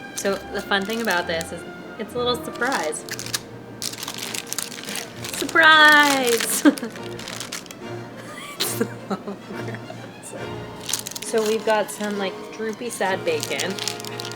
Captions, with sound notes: So the fun things about this is it's a little surprise. (parchment crinkles) Surprise (laughs). It's so gross. So we've got some droopy sad bacon, yum (laughs).